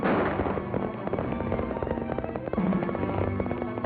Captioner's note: gunshot; horse galloping